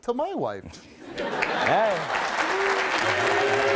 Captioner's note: audience laughing and clapping